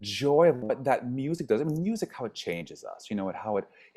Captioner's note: stammers